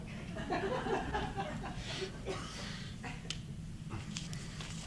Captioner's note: audience laughing